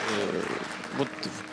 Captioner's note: applauding